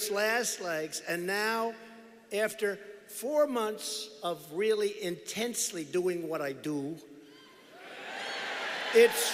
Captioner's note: cheers